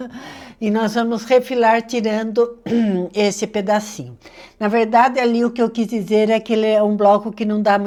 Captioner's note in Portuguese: limpando a garganta